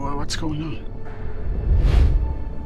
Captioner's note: whoosh